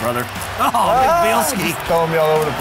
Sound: screams

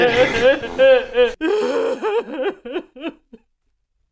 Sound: winces; unstoppable heartbreaking sobs; cries

